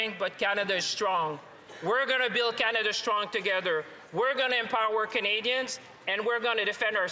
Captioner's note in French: voix de l'interprète